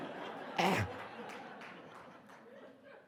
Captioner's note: audience laughing